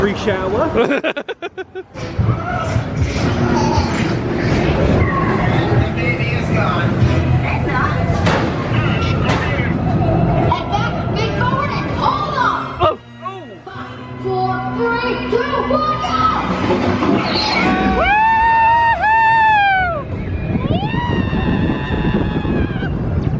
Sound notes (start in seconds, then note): 0.7 laughs; 5.6 rumbling coaster; 5.6 speaker chattering; 17.2 people screaming; 18.3 coaster rumbling